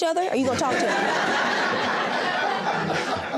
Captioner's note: audience laughing